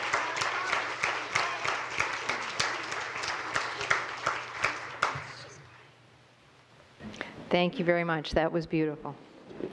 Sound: applause

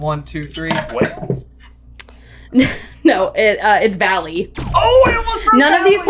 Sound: laughs

